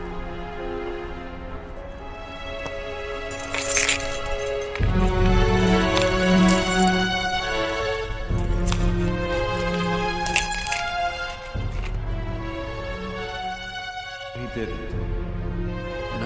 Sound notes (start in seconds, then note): 3.1 keys clattering; 6.5 ominous music